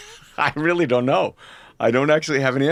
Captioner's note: laughs